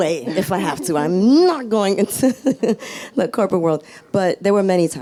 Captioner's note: laughs